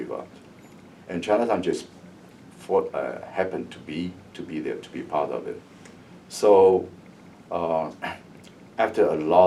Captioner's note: coughs